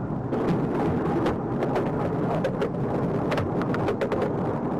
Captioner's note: fish whipping loudly